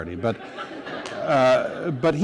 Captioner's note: laughter